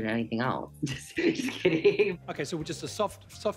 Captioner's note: laughs